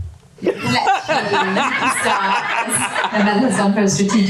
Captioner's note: audience laughter